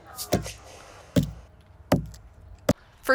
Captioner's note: wood thumping